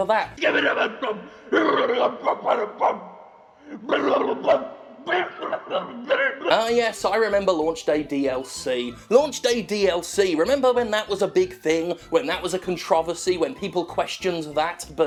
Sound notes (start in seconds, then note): 5.0 muffled coughing